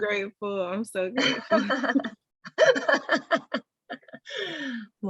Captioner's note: laughter